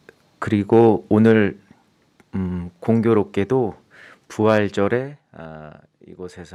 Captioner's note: speaking in Korean